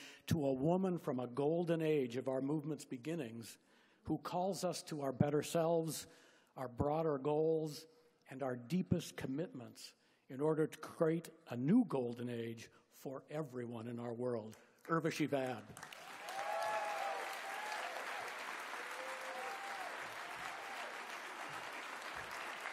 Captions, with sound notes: to a woman from a golden age of our movement's beginnings, who calls us to our better selves, our broader goals, and our deepest commitments in order to create a new golden age for everyone in our world. Urvashi Vaid. (Applause)